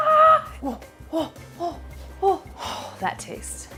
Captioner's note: excited gasping